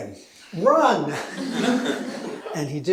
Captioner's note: laughter